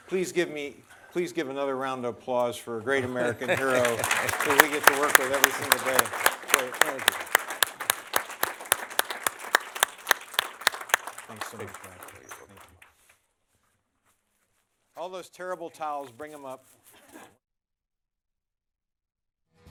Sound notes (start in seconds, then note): 7.1 applause